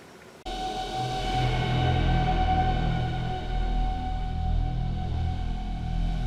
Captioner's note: eerie background noise